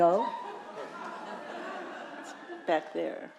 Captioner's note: audience chuckling